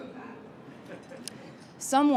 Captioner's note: crowd member sounds like he is chuckling